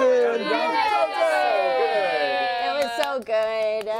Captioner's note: cheering